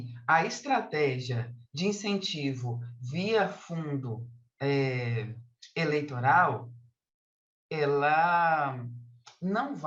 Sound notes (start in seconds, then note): 2.0 continues speaking in Portuguese